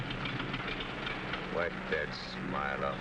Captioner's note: engine sputtering